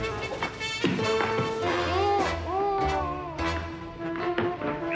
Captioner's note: groans; tense music; muffled yelling; tense music